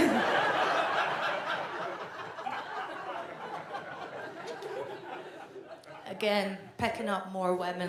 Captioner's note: audience laughs